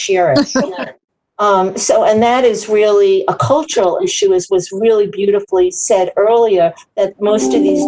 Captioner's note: laughter